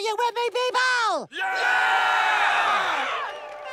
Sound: cheering

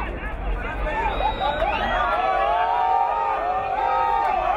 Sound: whistle blowing

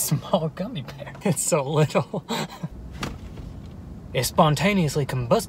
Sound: chuckles

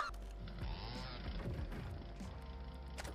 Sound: chainsaw rumbles

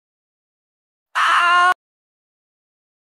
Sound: screaming in unimaginable horror

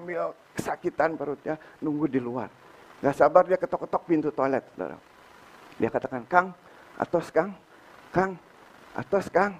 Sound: in Sundanese language

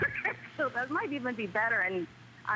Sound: laughter

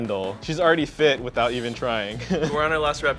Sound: laughs

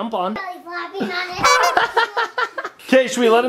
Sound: laughing

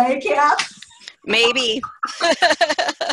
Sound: laughter

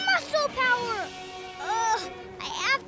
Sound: groan

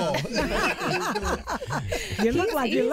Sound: laughing

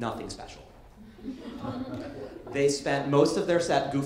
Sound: light laughter

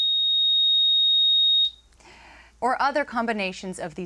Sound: high-pitched tone

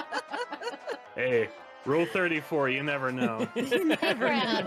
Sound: laughing

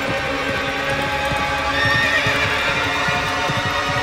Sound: horses approaching

